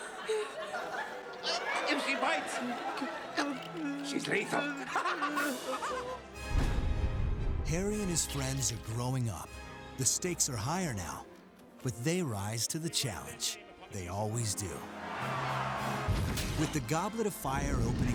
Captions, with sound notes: If she bites... ...she's lethal. [STUDENT CACKLING] Harry and his friends are growing up. The stakes are higher now. But they rise to the challenge. They always do. With The Goblet of Fire opening...